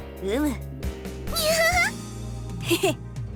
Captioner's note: chuckle; laugh